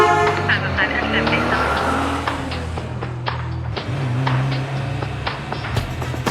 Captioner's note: carn horn honks loudly; police radio